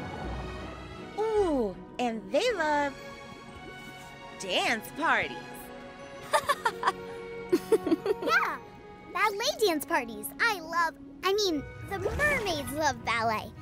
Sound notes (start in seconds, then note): 5.9 laughing